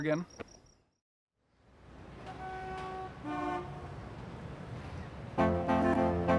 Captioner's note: traffic noises